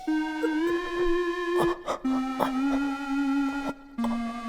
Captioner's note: Heath choking